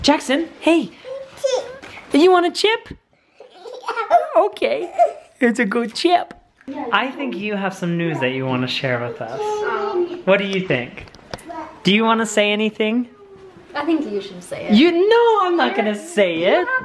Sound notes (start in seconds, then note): 2.5 voiceover